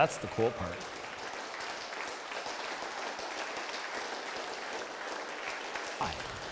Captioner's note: applause